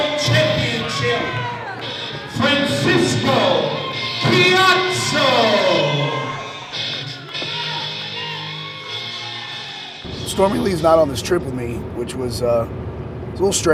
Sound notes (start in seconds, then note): 6.6 crowd cheering; 6.8 clapping